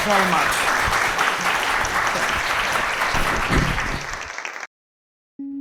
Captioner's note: audience applauding